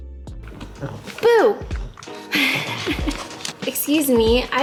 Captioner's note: laughs